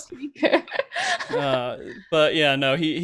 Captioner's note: laughs